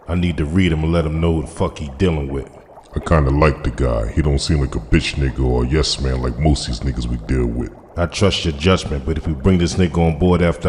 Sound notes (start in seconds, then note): none